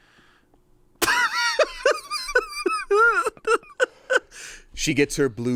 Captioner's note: laughs